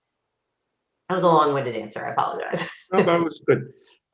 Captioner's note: laughs